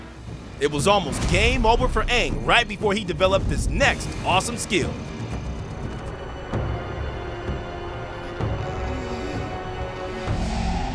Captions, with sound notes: It was almost game over for Aang right before he developed his next awesome skill. [groaning]